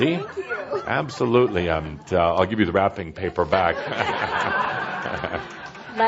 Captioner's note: laughter